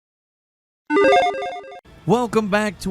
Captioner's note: game chimes